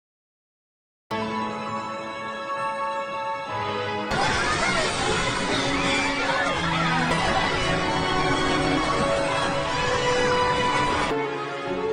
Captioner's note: clap